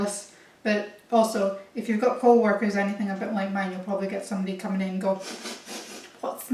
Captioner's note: sniff sniff, sniff sniff